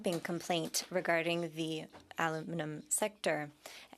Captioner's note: speaking French